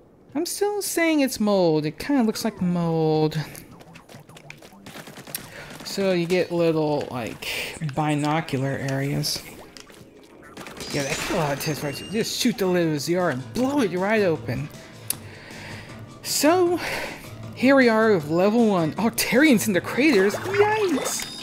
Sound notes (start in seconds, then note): 10.4 pinging of metal; 11.5 teakettle blowing; 13.2 funky music coming out the kettle